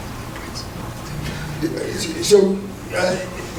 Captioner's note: whispering